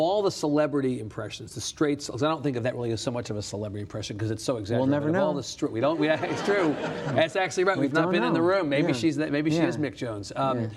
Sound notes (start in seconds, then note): 5.9 audience laughs